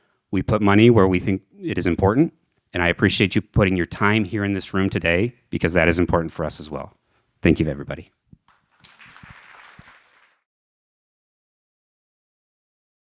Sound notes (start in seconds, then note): 8.4 audience applauding